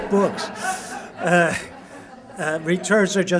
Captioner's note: laughter